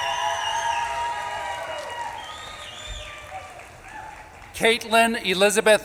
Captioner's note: audience claps and cheers